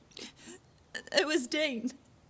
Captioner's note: Trina sobs